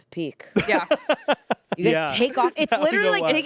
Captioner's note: laughs